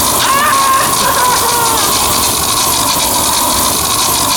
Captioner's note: screaming